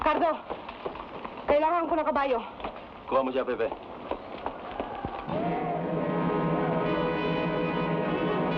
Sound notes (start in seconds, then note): 0.2 woman speaking in Tagalog; 3.2 man speaking in Tagalog; 5.3 suspenseful music